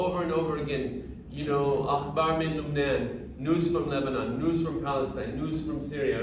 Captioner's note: speaking arabic